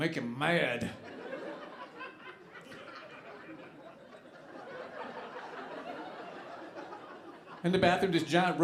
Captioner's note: audience laughing